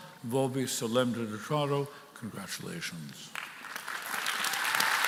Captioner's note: speaking in Latin